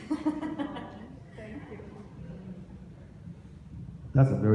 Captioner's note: interviewer laughs